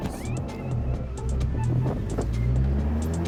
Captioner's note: engine revving; upbeat music